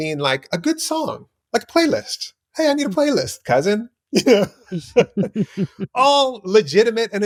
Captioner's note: laughter